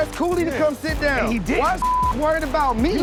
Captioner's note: beep